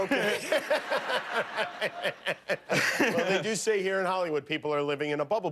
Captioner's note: laughter